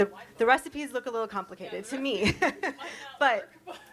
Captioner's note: chuckles